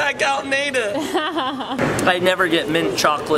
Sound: laughing

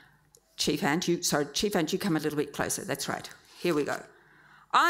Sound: none

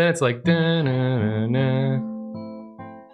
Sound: humming

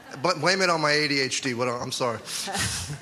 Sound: laughter

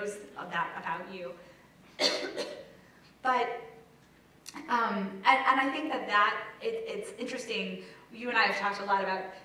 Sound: cough

